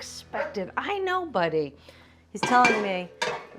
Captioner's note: Ziggy barking